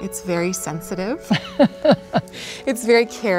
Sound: laughs

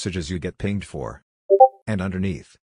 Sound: Discord Ping Sound

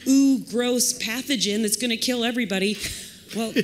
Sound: laughter

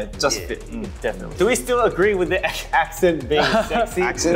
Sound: laughs

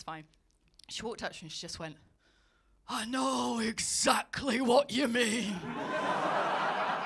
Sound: derby accent; laughter

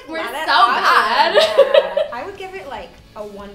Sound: laughter

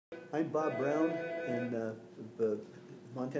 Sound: phone ringing in background

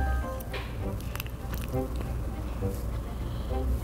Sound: chews

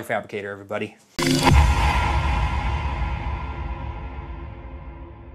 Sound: logo banging

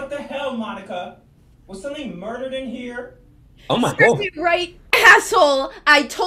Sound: laughing

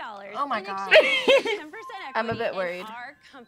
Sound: laughs

